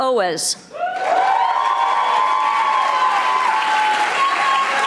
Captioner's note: audience applauding